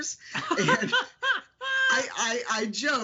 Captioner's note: laughing